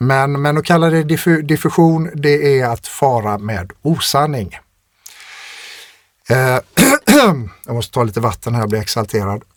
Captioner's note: clears throat